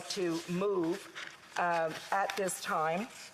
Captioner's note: speaking alternate language